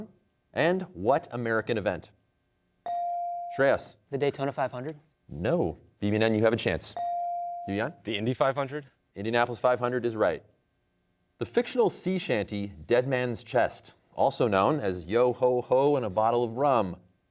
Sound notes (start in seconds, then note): none